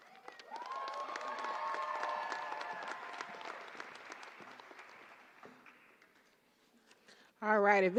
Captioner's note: applause